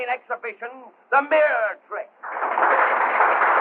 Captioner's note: applause